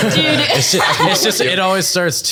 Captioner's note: starts humming the tune